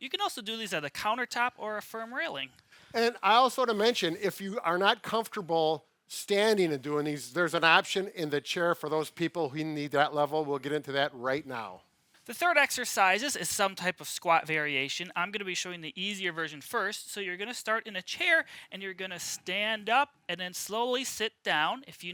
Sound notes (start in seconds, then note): none